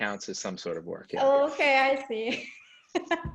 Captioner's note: laughs